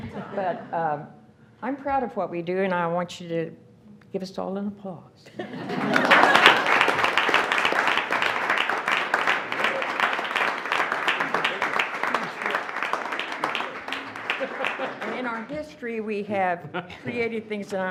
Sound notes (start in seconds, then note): 6.0 attendees applauding